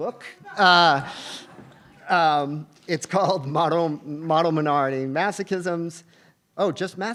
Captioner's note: laugh